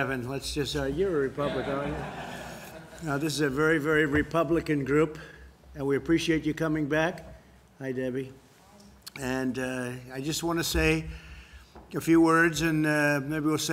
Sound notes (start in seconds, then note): 1.4 laughter